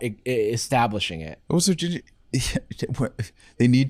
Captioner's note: stammering